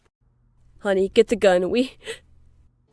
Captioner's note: gasp